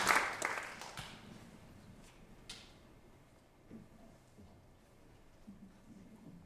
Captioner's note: silence